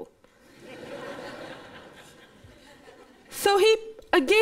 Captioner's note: laughter